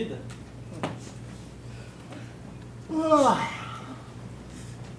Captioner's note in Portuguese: bocejo